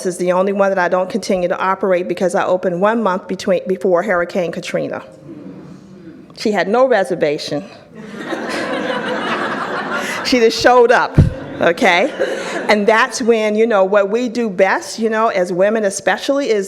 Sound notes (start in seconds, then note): 8.0 audience laughs